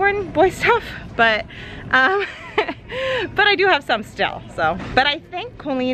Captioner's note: laughs